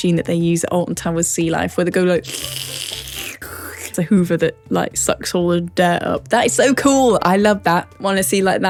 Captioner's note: slurp